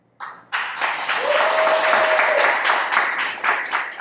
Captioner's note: audience applauding